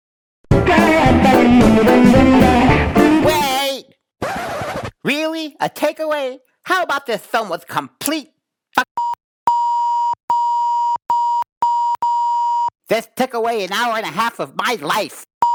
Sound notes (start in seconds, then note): 0.5 upbeat music; 10.3 beep